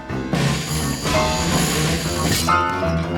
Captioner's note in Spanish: sonido de sierra